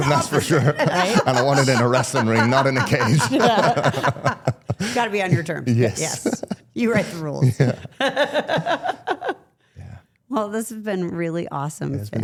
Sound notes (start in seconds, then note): 3.5 participants laugh; 7.0 laughs